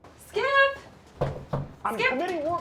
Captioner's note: knocks